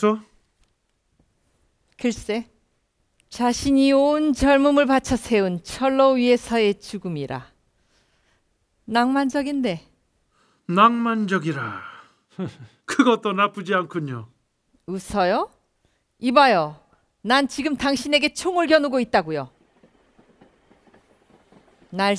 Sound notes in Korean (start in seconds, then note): 12.3 웃음